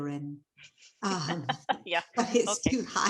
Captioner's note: laughing